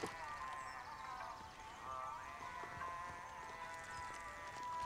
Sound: birds chirping

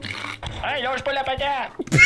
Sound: south country accent

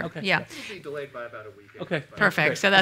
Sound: voiceover

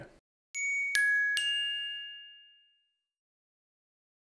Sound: bells chime

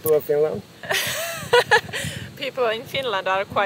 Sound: laughing

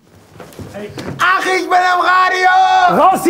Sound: screams

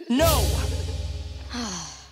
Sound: sighing

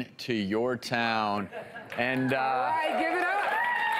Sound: cheers

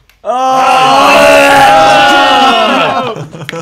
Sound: cheers

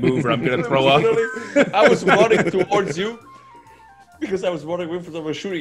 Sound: laugh

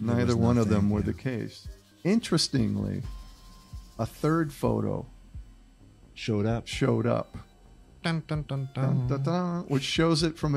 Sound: mouthing announcement music

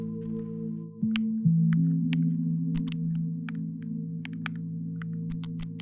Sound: controller buttons clicking

